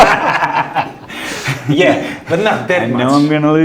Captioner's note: laughing